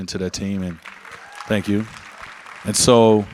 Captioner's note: audience applauds